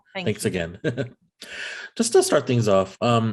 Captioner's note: giggles